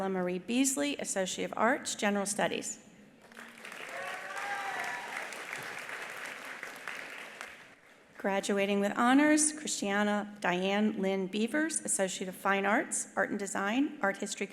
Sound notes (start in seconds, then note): 3.2 attendees applauding; 3.6 attendees cheering